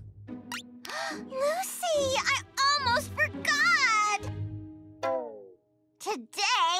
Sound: gasps

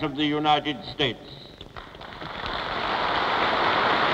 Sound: applause

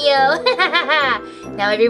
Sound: laughs

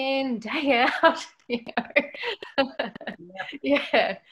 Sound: laughs

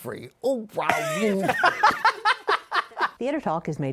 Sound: laughter

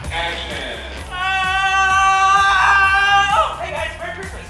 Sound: screaming

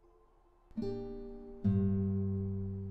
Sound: none

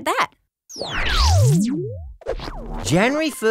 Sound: zzzzzzzzzzzzzzzap

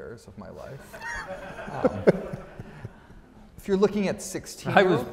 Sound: audience laughs

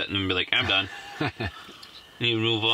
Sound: laughing

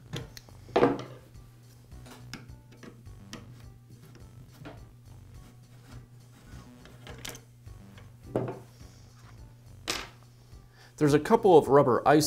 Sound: silence

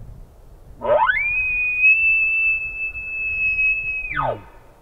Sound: caller bugling

